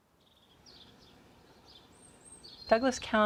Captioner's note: birds chirping